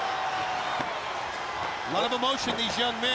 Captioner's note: crowd chatter